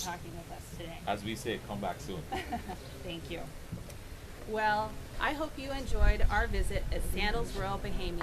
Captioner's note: laughing